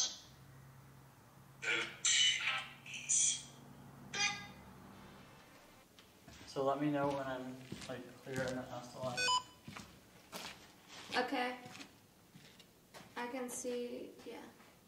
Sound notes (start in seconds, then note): 9.1 phone beeps